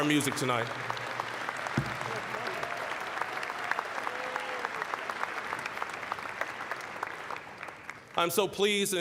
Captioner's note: applause